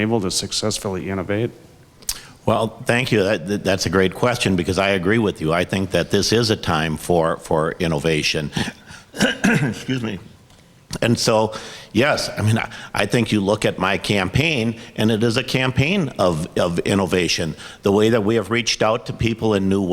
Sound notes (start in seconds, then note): 8.4 coughs